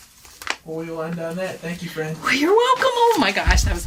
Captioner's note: laughs